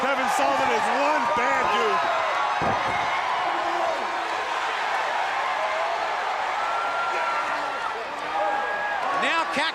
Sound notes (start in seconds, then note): 1.8 crowd chatter; 2.6 crowd cheering